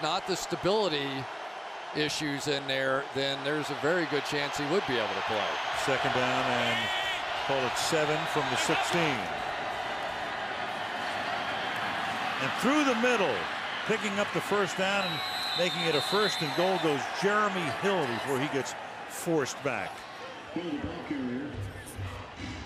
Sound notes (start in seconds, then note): 6.3 cheering